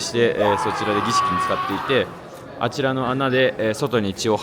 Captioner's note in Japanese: 叫び声